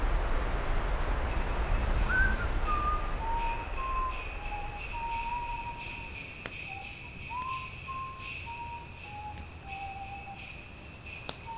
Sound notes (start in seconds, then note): 1.0 sleigh bells; 1.9 whistling